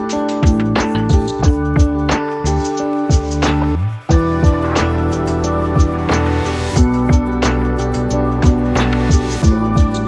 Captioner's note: sanding